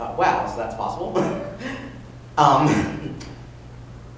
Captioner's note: laughter